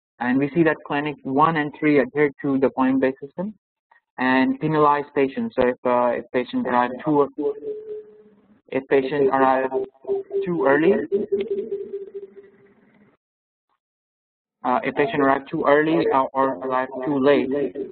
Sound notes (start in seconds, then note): 7.4 voice echoing; 11.2 voice echoing